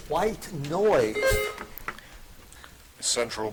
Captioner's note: buzzer dings